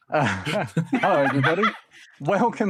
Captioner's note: laughing